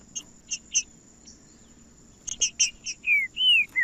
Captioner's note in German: trinca ferro cantando